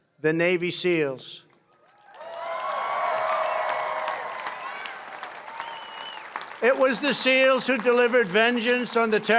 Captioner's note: applause